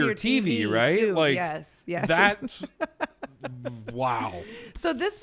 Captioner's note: laughs